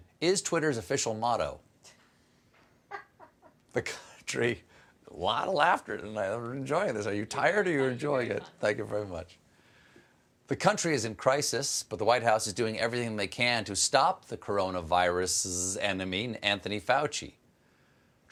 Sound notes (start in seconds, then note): 7.6 laughter